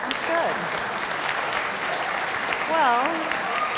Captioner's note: audience applauds